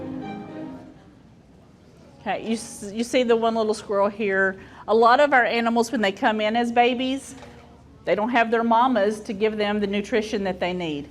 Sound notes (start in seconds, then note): none